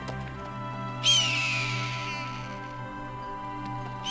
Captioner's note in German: Adler schreit